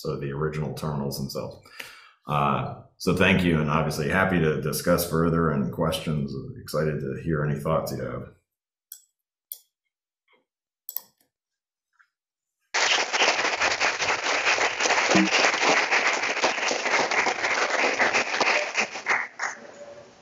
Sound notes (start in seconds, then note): 12.7 audience applauding